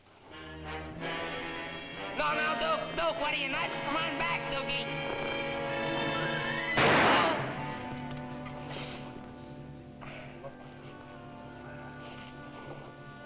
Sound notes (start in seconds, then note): 0.2 suspenseful music; 6.7 Sammy groans; 6.7 gun fires